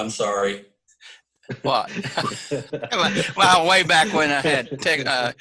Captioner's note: laughs